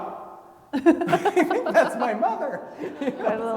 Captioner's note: laugh